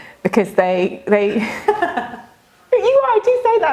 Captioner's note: laughing